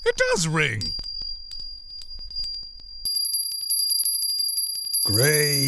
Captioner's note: bell ringing